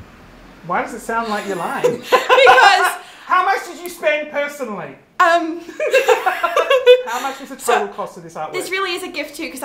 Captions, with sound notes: - Why does it sound like you're lying? (both laugh) - Because- - How much did you spend personally? - Um. (both laughing) - How much is the total cost of this artwork? - This really is a gift, too,